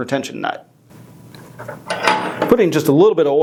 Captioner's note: metal clanging